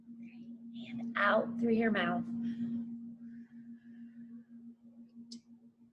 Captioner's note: lightly exhales